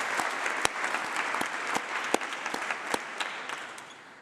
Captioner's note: applause